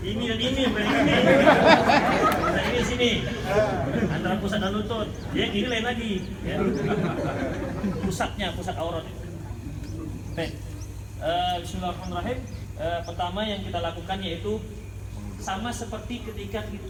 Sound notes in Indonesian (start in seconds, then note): 1.5 Jama'ah tertawa lagi; 7.4 Jama'ah tertawa